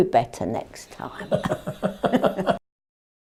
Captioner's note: both laugh